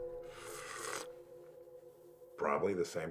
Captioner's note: Sawyer slurping